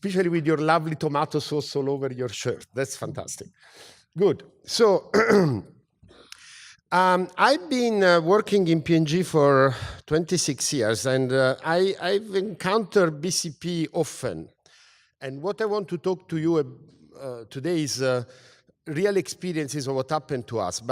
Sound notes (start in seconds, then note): 5.1 cough